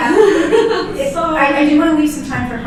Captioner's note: laughs